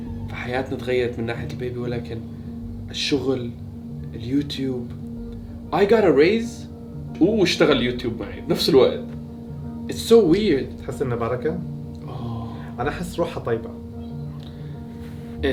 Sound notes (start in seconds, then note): 0.0 speaks in English; 9.8 speaks in English